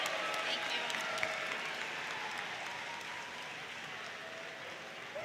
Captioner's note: audience cheers